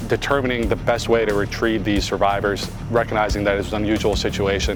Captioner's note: helicopter blades whirring